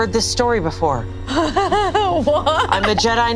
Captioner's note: laughs